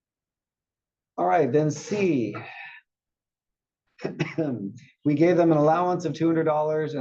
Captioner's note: cough